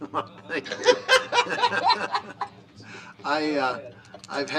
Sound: laughter

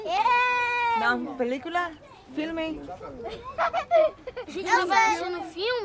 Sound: speaking foreign language; all speaking foreign language

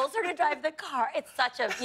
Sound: laughter

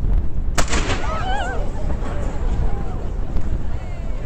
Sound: exclamation

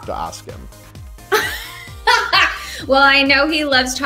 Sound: laughs

